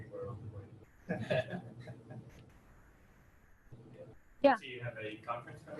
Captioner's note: audience laughing